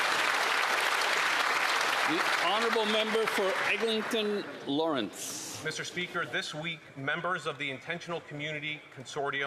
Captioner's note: some Applause